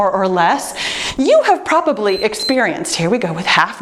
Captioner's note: timer beeps